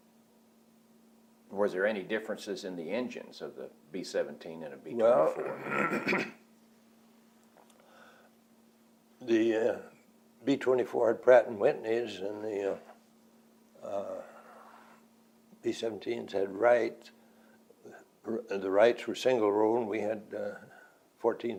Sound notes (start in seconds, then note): 8.3 clears throat